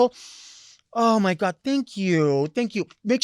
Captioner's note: sniffing